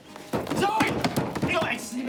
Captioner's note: pounding